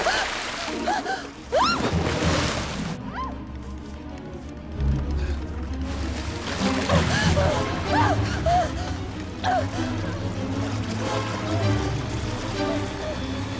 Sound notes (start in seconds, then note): 0.3 roaring, gasps; 4.3 screams; 10.8 gasping